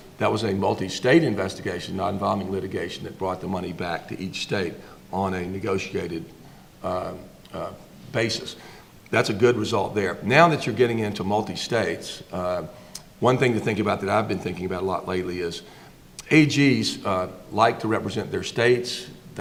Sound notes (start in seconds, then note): none